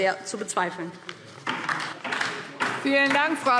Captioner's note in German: Beifall DIE LINKE